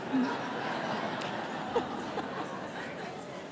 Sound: crowd laughs

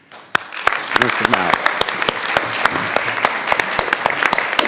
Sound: all applauding

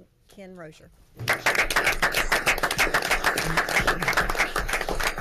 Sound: audience applauds

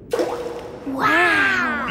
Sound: rock plops

